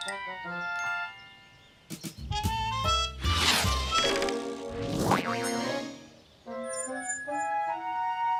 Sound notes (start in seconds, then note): 3.2 whooshing; 4.7 boing